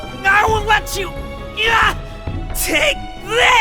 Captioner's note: grunt